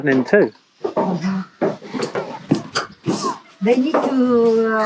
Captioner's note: footsteps walking